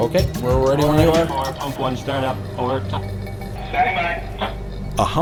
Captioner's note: man On Radio